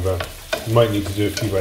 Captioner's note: spoon taps in pan